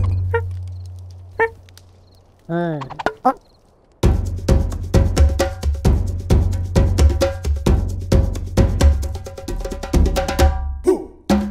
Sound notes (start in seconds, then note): 0.8 monkey chattering; 4.0 upbeat tribal music